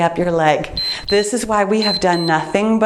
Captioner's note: timer beeps